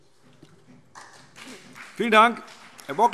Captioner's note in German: Beifall BÜNDNIS 90/DIE GRÜNEN und CDU